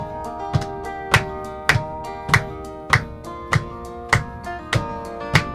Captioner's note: clapping and stomping